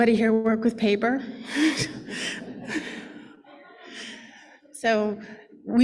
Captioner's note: laughter